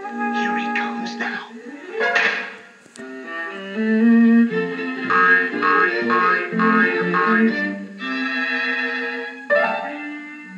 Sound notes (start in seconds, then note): 2.1 thwack; 5.0 boing Boing Boing; 9.5 comical Music